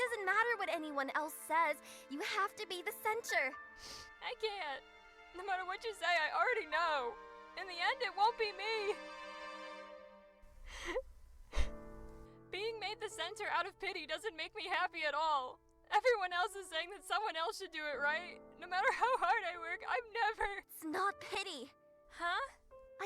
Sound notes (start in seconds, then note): 3.8 sniffle; 10.6 quiet sobbing